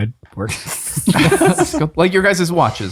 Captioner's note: all laughing